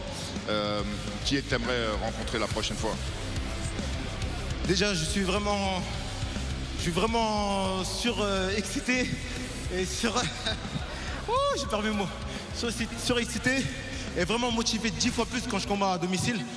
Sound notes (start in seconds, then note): 4.6 speaking foreign language